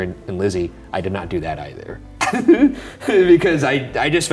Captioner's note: chuckles